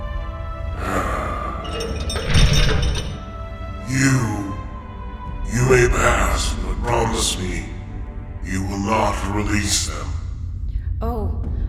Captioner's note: sigh